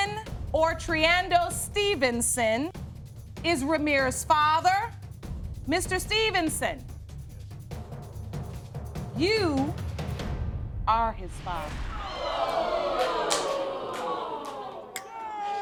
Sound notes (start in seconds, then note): 11.8 audience exclaiming